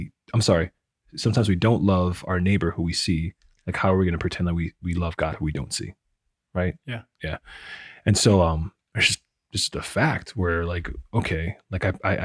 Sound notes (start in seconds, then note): none